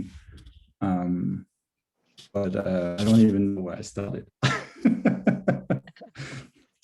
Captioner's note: laughs